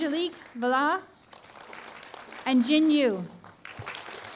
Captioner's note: applause